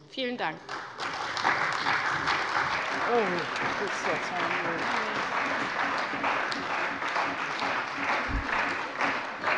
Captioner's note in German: Beifall bei der CDU und dem BÜNDNIS 90/DIE GRÜNEN